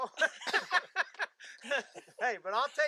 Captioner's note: laughter